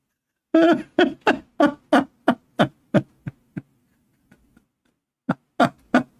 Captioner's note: laughter